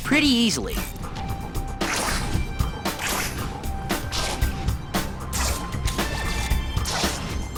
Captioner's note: punch